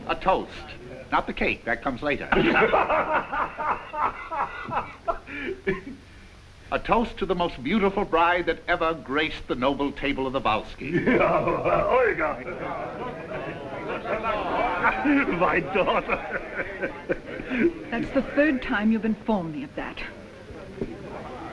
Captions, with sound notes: A toast, not the cake, that comes later. (Kuzminichna laughs) A toast to the most beautiful bride that ever graced the table of the Volskys. - Olga my daughter. - That is the third time you have informed me of that.